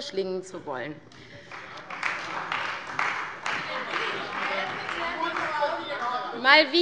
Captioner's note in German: Beifall bei der CDU - Zurufe von der LINKEN